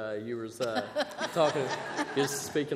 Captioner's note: laughter